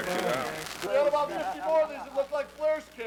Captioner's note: nWo member chuckling